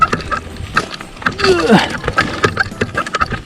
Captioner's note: even more grunting